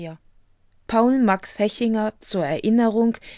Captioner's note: german